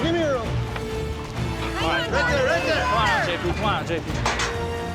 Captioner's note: all shouting